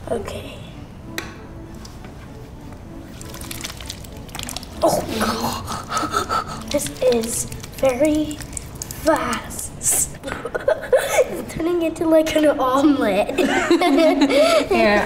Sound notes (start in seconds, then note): 1.2 foot switch clicks; 3.9 clay sloshing; 5.0 laughs; 10.2 laughs; 13.3 laughing